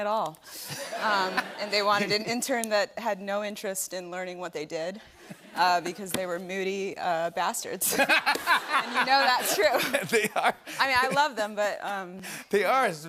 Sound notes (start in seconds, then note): 0.6 laughter; 7.8 laughter